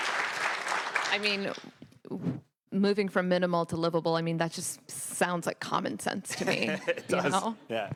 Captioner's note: applause